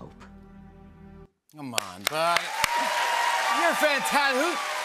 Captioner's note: cheers and applause